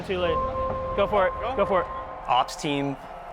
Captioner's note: fans cheering